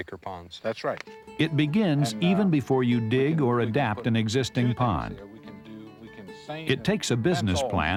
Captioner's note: voiceover